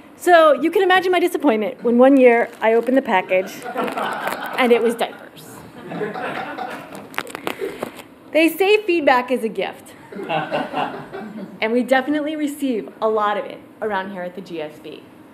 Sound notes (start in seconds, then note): 6.0 laugh